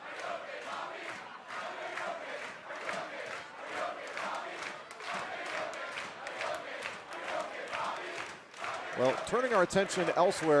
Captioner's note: fans chanting